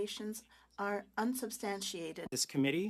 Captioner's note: speaking French